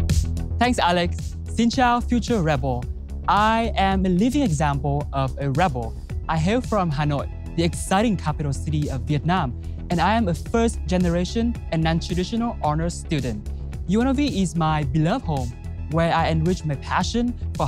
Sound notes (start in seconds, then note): 1.6 speaking Vietnamese